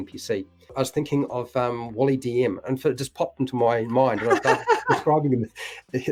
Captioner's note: laughs